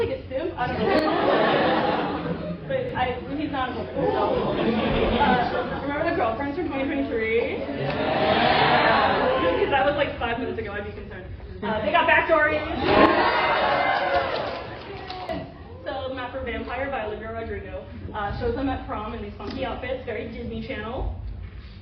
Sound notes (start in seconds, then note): 7.8 cheering; 12.7 more cheering